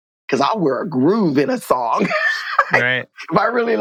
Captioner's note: laughter